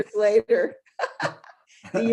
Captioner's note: laughing